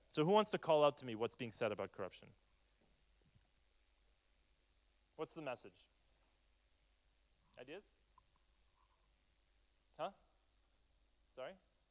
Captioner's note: speaks French